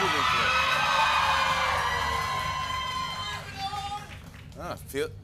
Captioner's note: cheering and applause